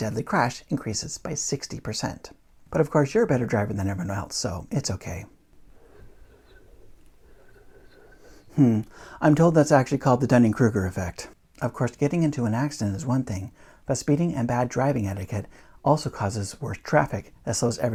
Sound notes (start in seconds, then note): 5.5 whispering